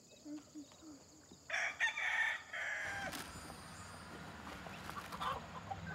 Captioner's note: rooster crows